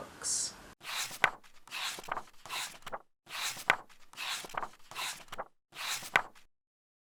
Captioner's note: pages turning